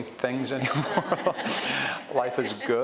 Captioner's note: audience chuckles